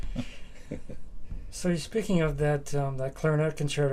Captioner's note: laughs